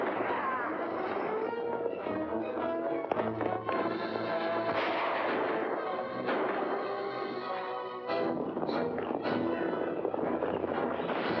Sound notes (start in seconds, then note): 0.0 hooves pounding; 1.2 dramatic music; 4.6 gunshots; 8.1 hooves pounding; 8.3 dramatic music